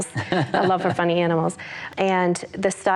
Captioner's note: laughs